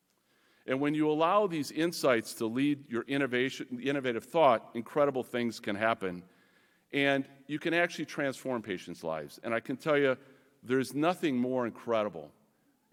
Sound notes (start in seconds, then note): none